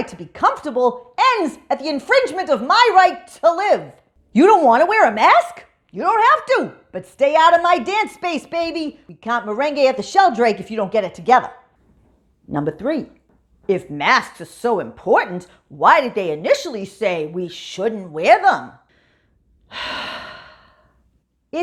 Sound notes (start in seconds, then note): 19.7 sigh